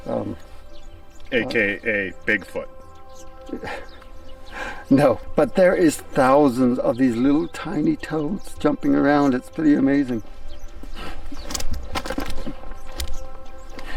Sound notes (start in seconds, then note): 3.4 chuckling; 11.4 quiet music